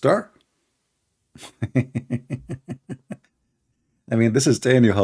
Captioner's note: Ketawa